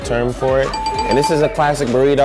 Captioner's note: dinging